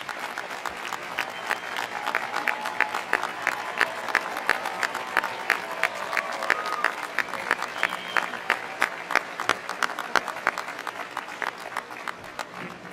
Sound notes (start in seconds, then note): 0.0 applause